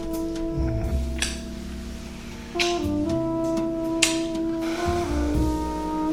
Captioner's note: man moaning; both kissing